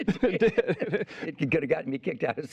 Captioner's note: laughing